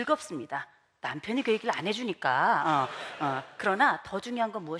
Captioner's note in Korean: 웃음